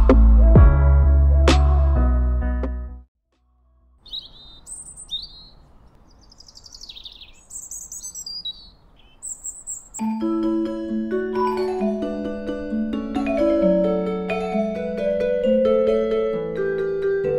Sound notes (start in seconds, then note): 4.0 birds Chirping; 10.0 happy Music